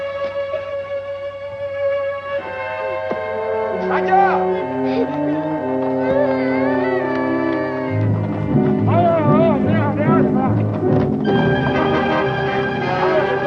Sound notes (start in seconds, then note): 0.6 somber instrumental music; 3.7 yells in foreign language; 4.6 sobbing; 9.4 speaks foreign language; 9.4 tense music